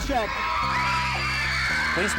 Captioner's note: crowd screaming